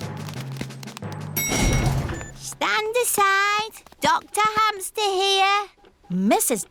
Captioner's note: elevator dings